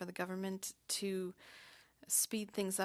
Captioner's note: speaking French